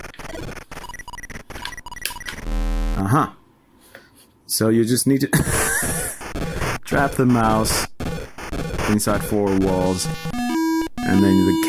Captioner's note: laughter